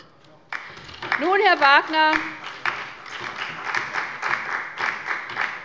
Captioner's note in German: Beifall bei der LINKEN und dem BÜNDNIS 90/DIE GRÜNEN